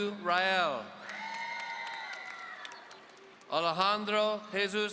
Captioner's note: audience cheering